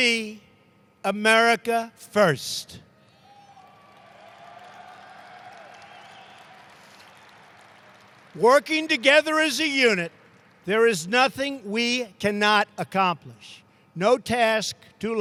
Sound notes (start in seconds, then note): 3.4 applause